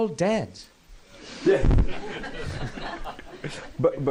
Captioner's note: laughter